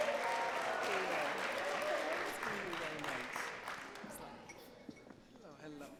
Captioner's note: audience cheering and clapping